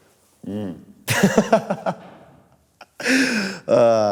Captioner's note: laughs